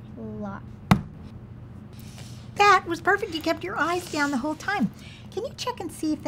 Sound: pounds fist

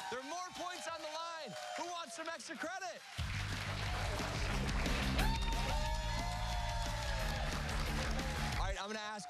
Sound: cheers and applause

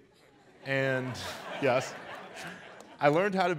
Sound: audience laughs

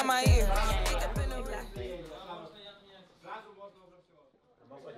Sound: players chattering

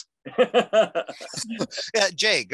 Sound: laughing

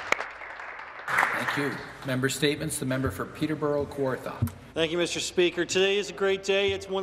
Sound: some Applause

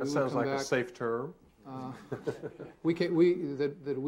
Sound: all laughing

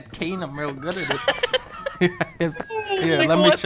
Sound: laughter

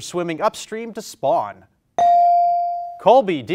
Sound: bell rings

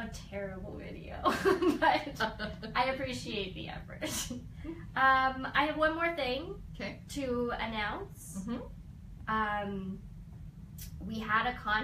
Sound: both laugh

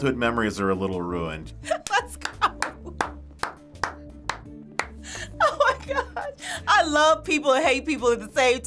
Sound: laughs and claps

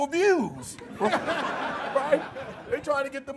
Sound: laughter

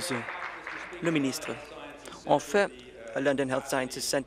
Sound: applause

